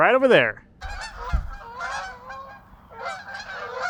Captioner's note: geese honking